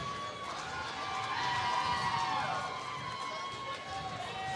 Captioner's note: applause